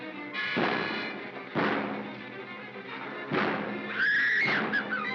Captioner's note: bang; Bo Peep screams